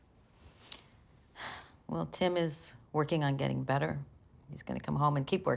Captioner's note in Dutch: zucht